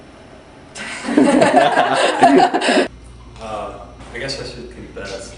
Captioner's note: laughter